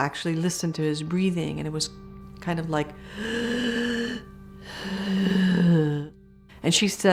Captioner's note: breathes in and out